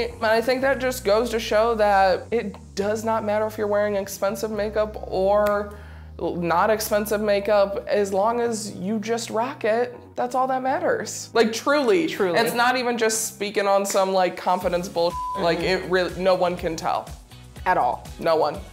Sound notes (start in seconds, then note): 15.1 beep